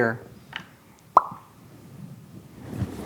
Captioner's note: pops